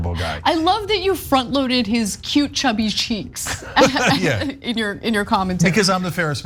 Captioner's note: laugh